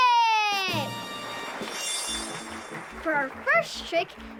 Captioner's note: clapping